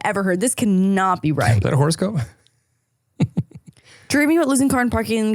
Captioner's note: laughing